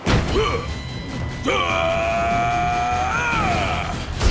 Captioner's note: yells